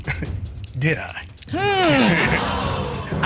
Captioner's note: chuckles